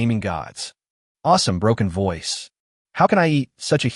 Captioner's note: broken voice